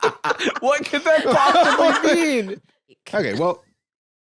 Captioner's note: all laughing; laughing